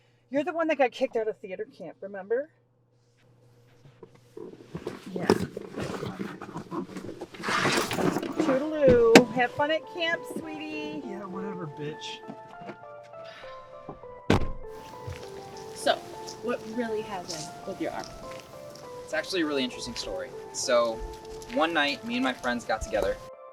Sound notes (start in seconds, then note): 13.5 eerie music; 14.3 door closing